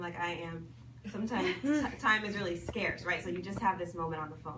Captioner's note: people laugh